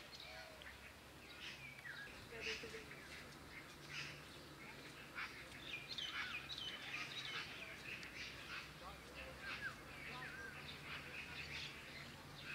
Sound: birds singing

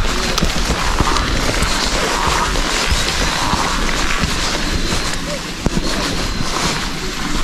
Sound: laughs

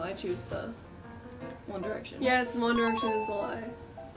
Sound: correct ding

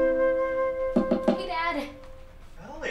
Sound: knocking

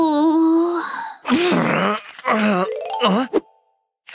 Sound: moaning

